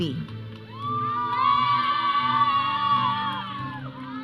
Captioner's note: audience cheering